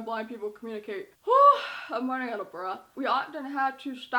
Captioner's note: sighs